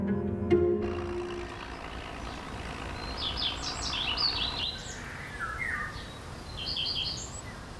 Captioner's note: tractor engine rumbles amid birdsong